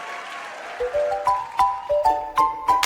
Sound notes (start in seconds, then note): 0.0 applause; 0.0 cheering